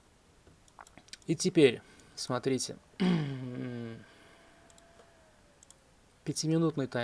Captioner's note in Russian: откашливается